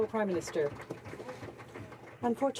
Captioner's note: some Applause